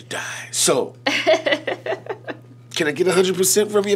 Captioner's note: laughing